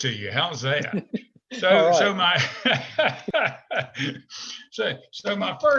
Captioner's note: laughing